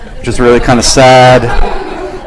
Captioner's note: laughs